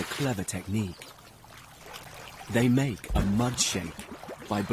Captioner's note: water splashing